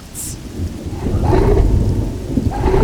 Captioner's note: short deep bellowing roar; very long and deep roar